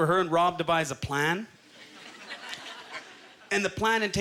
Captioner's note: audience chuckles